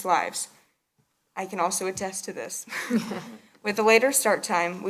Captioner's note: laughs